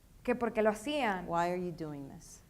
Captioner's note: speaking in foreign language